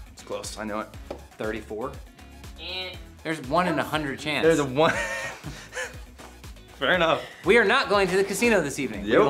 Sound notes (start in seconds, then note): 4.8 laughter